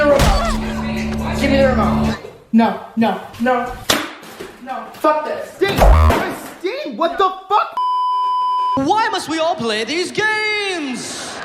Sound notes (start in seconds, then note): 5.8 discount bonk / hardstyle kick; 7.8 beeeeeeeeeeeep